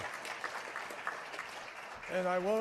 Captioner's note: applause